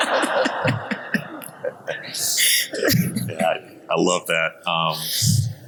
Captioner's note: audience laughing; panelists laughing